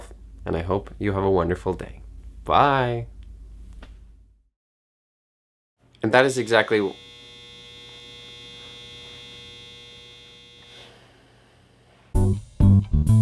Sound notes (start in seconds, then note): 6.5 laundry machine buzzer goes off; 8.6 buzzer still going off; 12.1 jazz music plays